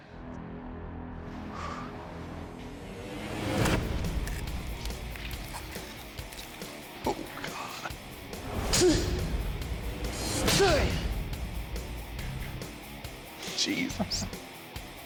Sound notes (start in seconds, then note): 0.5 rock music playing; 6.4 whispers; 13.7 chuckles